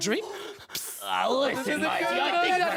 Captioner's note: pssst